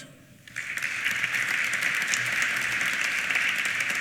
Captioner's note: applause